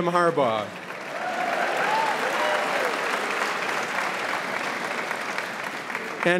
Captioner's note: audience applauding and cheering